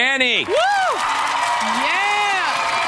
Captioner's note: cheering